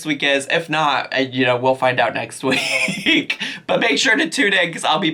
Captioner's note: laughs